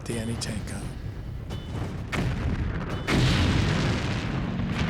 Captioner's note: explosions